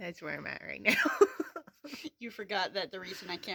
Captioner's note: laughter